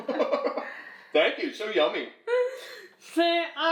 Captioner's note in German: lacht